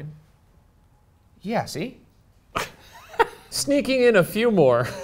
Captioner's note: laughing